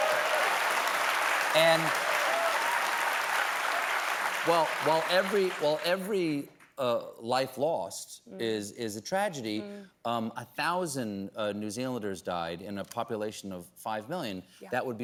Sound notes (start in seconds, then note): 0.0 applause